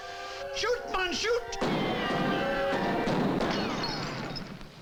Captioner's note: gunshots banging